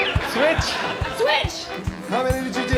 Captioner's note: blows whistle